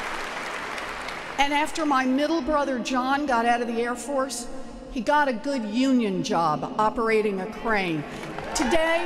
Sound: applause

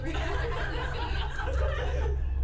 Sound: laughs

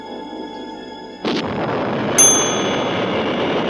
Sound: explosion; bell dings

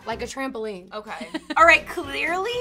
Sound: laughing

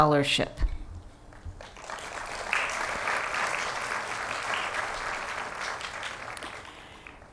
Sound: applause

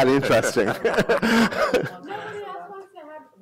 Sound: laughter

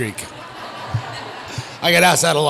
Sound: audience laughs

